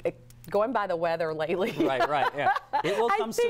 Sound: laughter

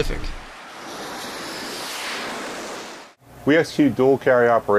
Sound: engines roaring

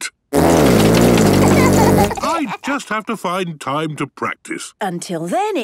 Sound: laughter

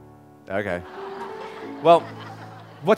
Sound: audience laughing

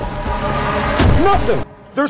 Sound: slams the damn door

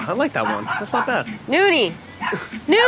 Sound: dog barks

